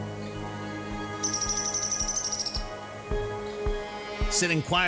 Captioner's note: bird chirping